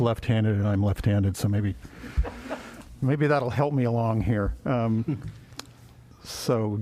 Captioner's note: laughter